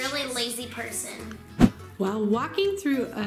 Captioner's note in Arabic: سووش